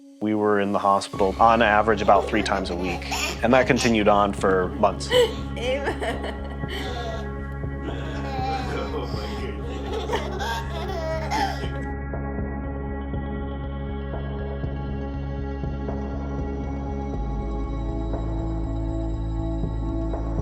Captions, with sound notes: We were in the hospital on average, about three times a week and that continued on for months. (laughter) (intense music)